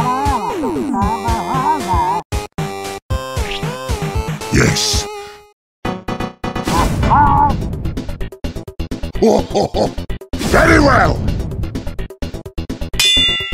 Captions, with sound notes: Yes. [chortles] Very well!